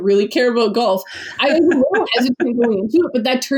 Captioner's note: laughs